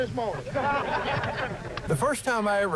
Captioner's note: people laughing